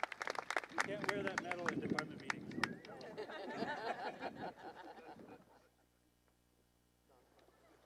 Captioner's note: applause and cheering; laughs